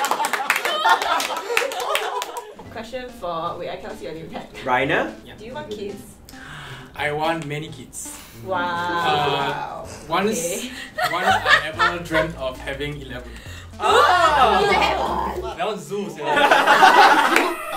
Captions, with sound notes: - Question for, wait I cannot see your name tag. - Rainier? Do you want kids? I want many kids. Once I ever dreamt of having 11. (Grunts in horror) That one zoo sia.